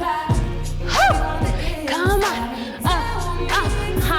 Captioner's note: yelps